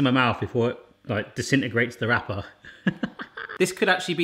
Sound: laughs

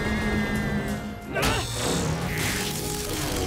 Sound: whirring

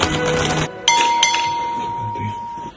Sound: two dings

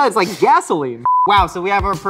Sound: beep

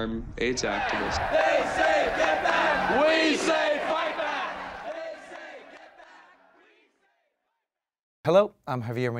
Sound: chanting

